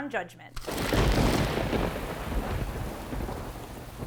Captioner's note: thunder